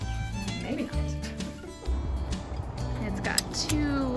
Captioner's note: laughts